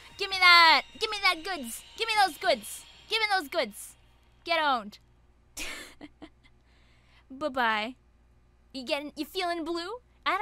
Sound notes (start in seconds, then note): 6.1 laughs